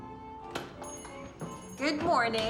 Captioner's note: doorbell jingling